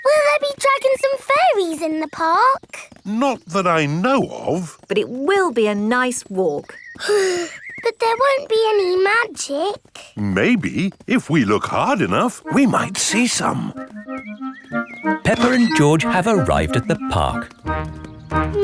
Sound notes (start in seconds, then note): 7.0 sighs